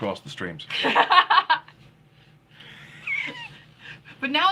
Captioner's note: laughing